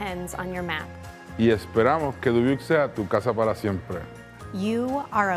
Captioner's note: speaking in foreign language